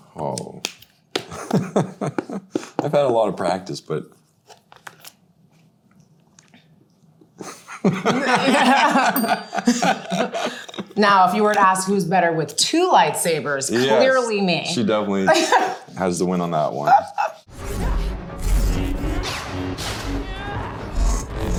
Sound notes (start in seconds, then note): 1.4 laughs; 7.4 both laughing; 17.7 light sabers buzzing